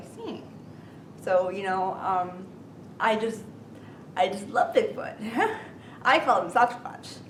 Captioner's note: laughing